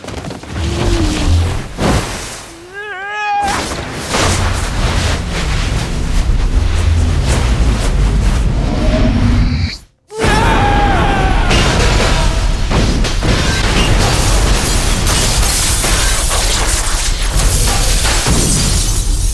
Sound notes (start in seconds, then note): 2.6 yelling; 10.1 scream; 11.5 glass Smashing